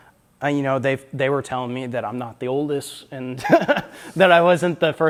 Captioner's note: laughs